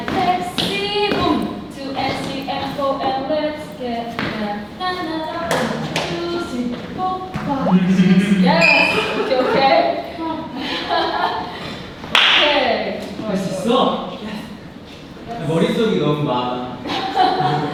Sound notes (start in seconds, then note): 7.6 spotted something and laughed